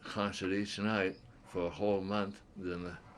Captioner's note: laughs